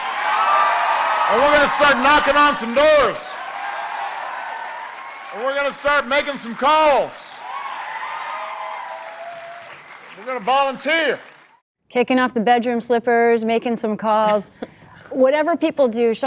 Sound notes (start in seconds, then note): 1.4 cheering and applause; 5.5 cheering and applause